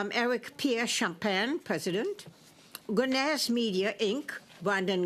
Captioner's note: speaking French